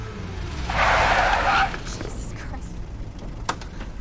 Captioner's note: tires screech